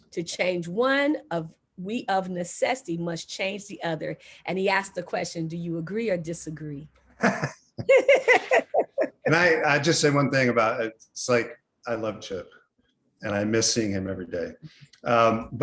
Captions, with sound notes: To change one of we of necessity must change the other." And he asked the question, "Do you agree or disagree?" (both laughing) - And I, I just say one thing about I love Chip and I missing him every day.